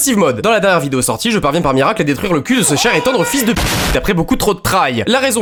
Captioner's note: explosion